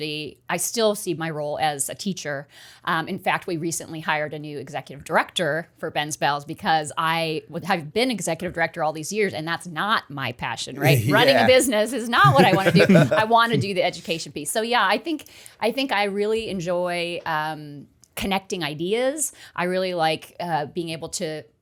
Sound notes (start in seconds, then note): 12.2 laughter